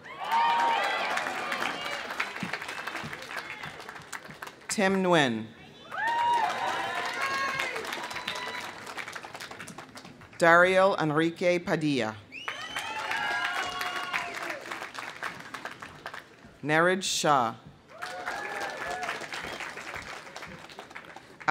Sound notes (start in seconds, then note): 0.0 audience cheering; 0.0 audience applauding; 5.7 audience cheering; 5.8 audience applauding; 12.4 audience cheering; 12.4 audience applauding; 17.9 audience cheering; 17.9 audience applauding